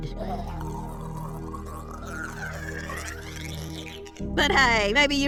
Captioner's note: gurgles